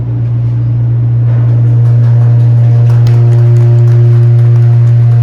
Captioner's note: clapping